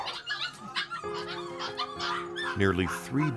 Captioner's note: dogs barking